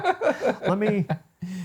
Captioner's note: both laughing